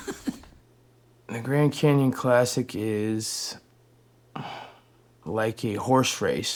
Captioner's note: chuckles; sighs